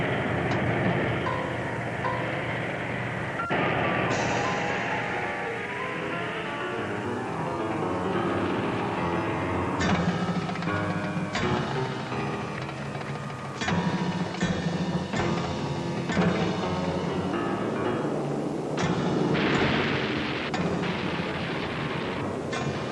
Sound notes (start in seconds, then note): 0.1 tank rumbling; 11.2 unsettling music continues; 18.1 planes roaring; 19.3 artillery firing